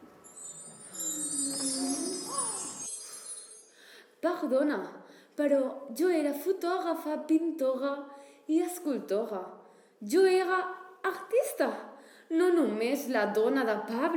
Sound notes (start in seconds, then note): 0.3 apparition sound; 2.7 with French accent